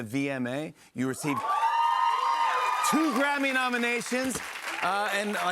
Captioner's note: cheers and applause